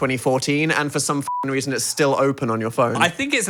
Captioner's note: beep